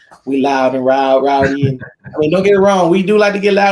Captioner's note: laughs